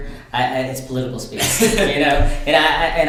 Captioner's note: laughs